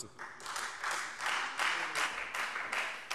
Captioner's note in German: Beifall Freie Demokraten